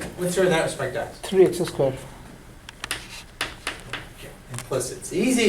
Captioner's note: voiceover